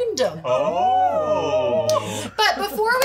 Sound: group oohing

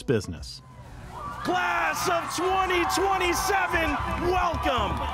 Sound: audience cheers

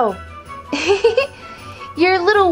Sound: giggles

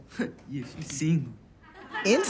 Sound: laughs; laughter

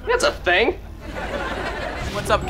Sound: laughing

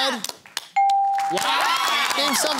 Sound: cheering

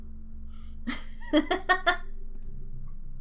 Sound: more laughing

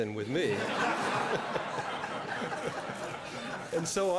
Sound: laughter

